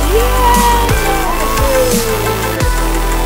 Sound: cheering

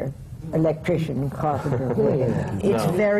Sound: laughs

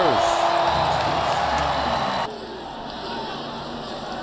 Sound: cheering and shouting from the crowd

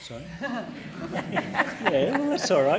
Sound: laughter

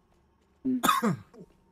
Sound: chuckles and coughs a little

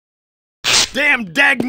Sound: spark.mp3

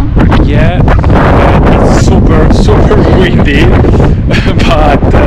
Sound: laughs

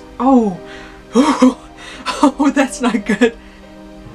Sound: gasps

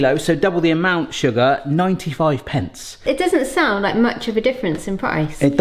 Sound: none

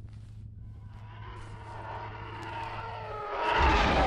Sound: TIE fighter approaching

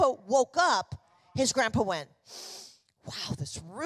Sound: loud sniffing

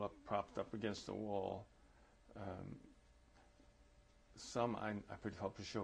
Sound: pauses for 3 seconds

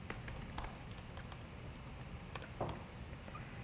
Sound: keyboard typing

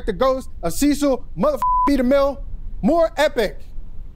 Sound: beep

